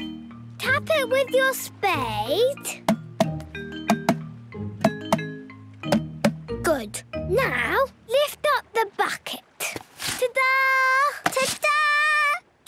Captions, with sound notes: Tap it with your spade. - (tapping) - Good. Now, lift up the bucket! Ta-daaa! - Ta-daaa!